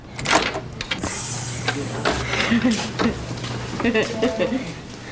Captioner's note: giggling